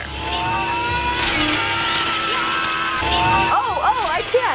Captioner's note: in video: screaming